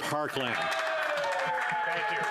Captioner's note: some Applause